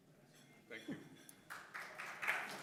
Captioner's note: applause